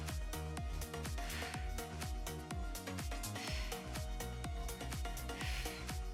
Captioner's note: upbeat lively music; exhaling deeply